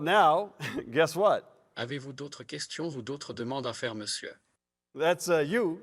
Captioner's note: French